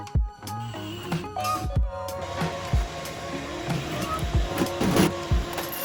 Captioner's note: upbeat music; machines buzzing and humming